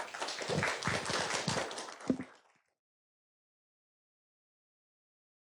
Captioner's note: audience applauding